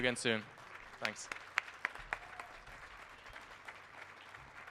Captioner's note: band applauding